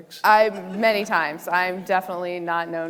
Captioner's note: audience laughing